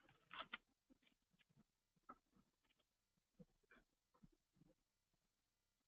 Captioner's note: pause